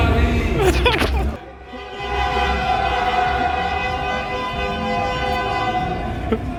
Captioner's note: a lot of car horns honking